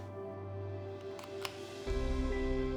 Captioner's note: the sound of a box opening; romantic music plays